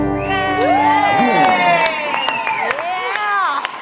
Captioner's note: audience claps and cheers